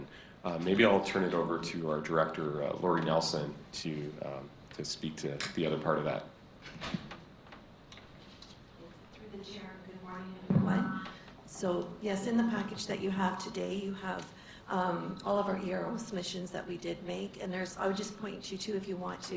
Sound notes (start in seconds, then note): 10.4 microphone reverb